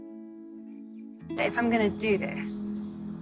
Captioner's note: voiceover